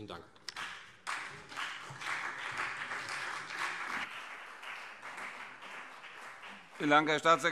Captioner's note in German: Beifall CDU und BÜNDNIS 90/DIE GRÜNEN